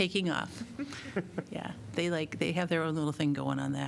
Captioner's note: laughter